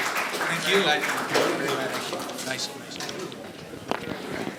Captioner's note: audience applauding; audience murmuring